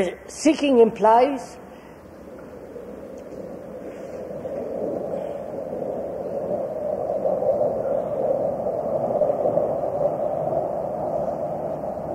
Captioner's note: sound of aeroplane